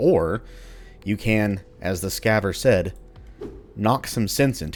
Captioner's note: swing